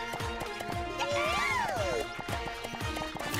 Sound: cheering

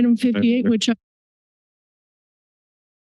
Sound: audio cuts

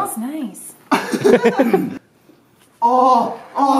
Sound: laughter

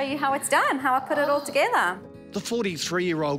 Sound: gasping

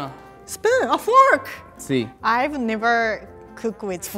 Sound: speaking in foreign language

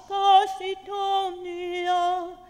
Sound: none

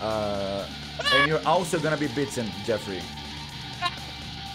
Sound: scream

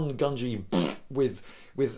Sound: fart Noise

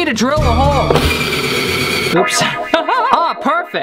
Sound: drilling sound

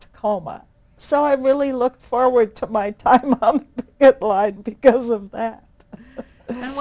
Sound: laughs

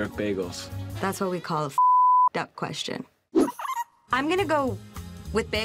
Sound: beep

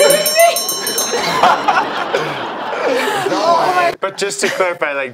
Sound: laughter

